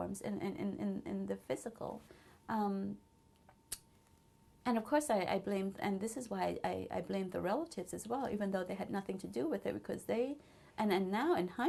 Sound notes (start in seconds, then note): 1.7 pauses for 3 seconds